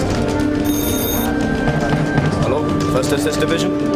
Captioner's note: phone rings